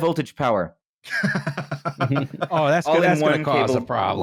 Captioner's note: chuckles near-hysterically